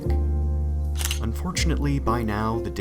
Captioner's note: camera shutter